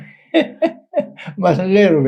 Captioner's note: laughs